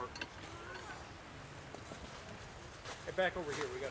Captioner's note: people talking